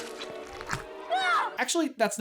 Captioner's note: scream